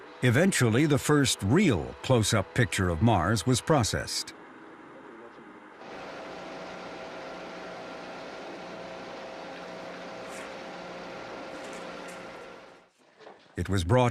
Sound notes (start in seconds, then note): 1.5 machine whirring; 8.6 machine whirring